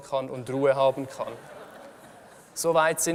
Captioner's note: laughter from the audience